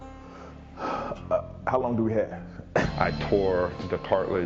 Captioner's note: sighs